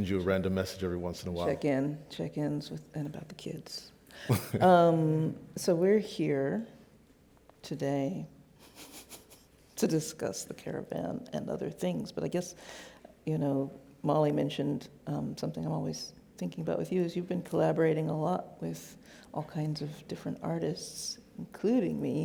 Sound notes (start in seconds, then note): 4.2 laughs